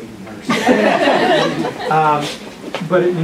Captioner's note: laughter